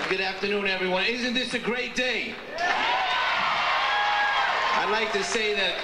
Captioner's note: audience cheers